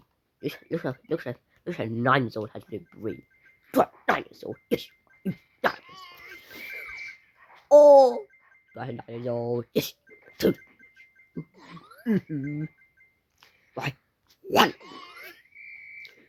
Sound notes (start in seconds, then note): 10.6 murmur; 11.9 sigh